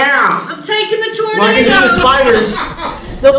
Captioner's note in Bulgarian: смях